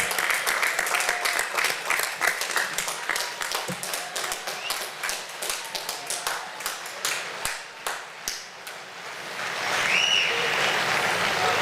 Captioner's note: applause